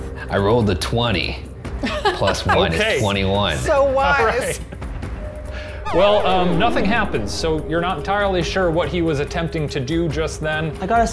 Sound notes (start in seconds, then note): 1.8 laughs; 4.6 laughing; 11.0 English accent